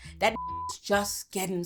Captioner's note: beep